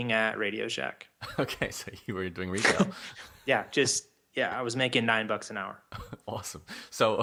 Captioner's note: laughs